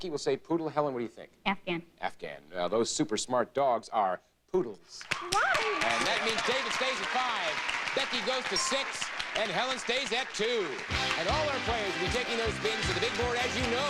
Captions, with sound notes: Becky will say poodle Helen what do you think? Afghan. Afghan. Yes those super smart dogs are poodles. [audience applauding] Alright! And that means David stays at 5, Becky goes to 6, and Helen stays at 2. And all of our players will be taking those valuable spins to the Big Board as you know.